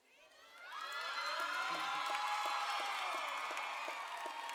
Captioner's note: audience cheering